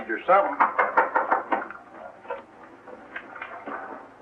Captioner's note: knocking